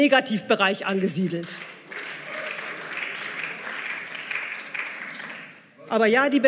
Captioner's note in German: Beifall